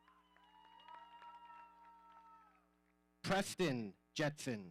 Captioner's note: audience cheering